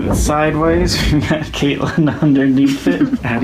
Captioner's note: laughing